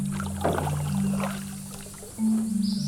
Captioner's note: small water splash